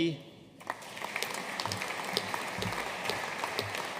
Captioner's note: audience applauding